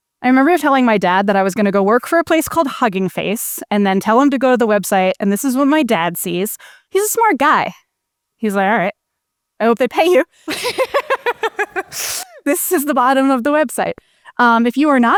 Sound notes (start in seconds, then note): 10.4 laughs